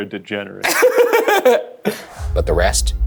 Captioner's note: laughs